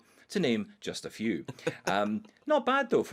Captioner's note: laughs